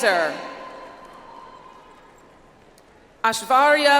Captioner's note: audience applauds